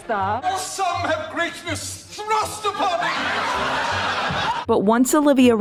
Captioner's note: audience howling with laughter